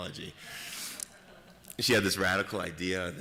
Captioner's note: laughter